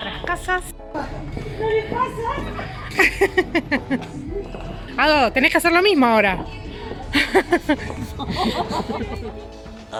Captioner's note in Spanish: risas